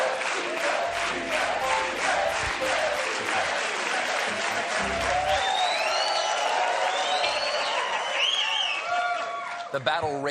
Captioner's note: cheers and applause; piano riff; cheering; audience chanting stephen